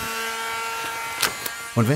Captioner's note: blow-drying noises